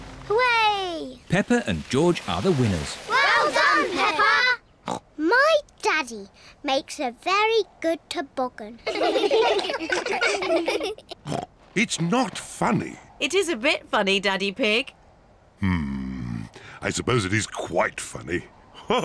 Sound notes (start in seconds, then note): 5.2 snorts; 8.8 all laugh; 11.2 snorts